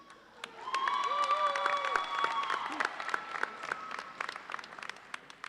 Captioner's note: audience cheers and applauds